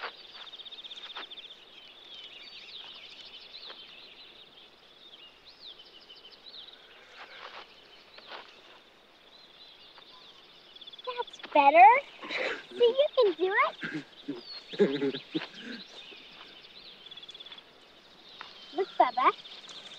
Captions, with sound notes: That's better. See you can do it. (Bubba giggling) Look, Bubba.